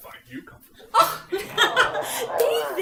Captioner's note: giggling; audience reacts